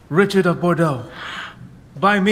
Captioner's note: gasp